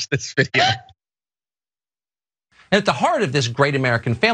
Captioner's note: laugh